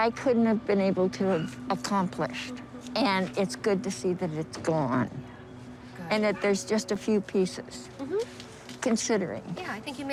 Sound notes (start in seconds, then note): none